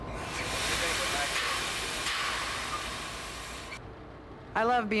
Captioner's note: train bell clanking; train hissing